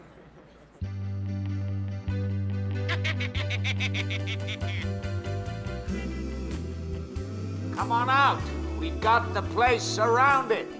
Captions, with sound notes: (rabbit toy laughter) - Come on out, we've got the place surrounded.